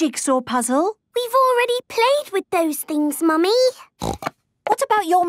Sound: snorting

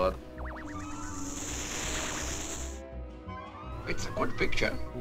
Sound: TV static hisses

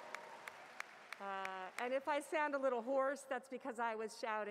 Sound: cheers and Applause

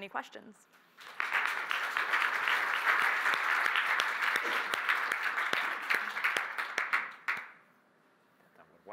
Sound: applause

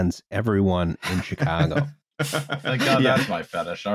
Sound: laughter

